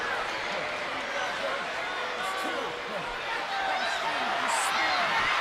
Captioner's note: crowd cheers and shouts